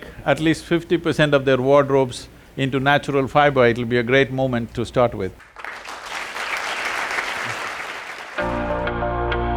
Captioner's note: applause